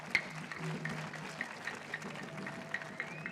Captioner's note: cheering and applause